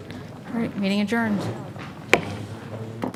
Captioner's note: gavel strike